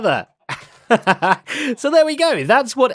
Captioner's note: laughs